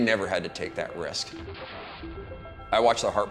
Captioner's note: blast cracks